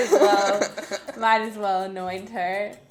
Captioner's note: laughing